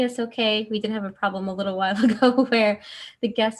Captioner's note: laughs